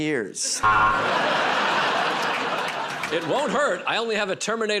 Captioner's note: buzzer